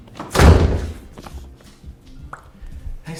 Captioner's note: door slamming